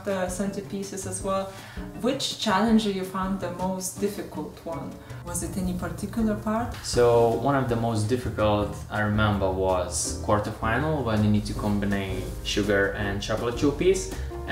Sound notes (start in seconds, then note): none